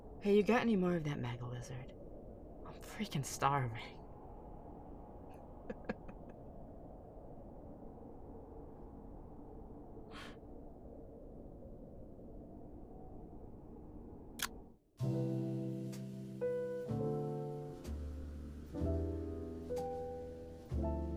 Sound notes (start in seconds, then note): 5.6 laugh; 10.0 sigh; 14.6 radio turns on